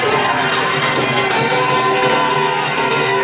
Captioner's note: shouting